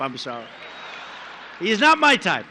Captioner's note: laughter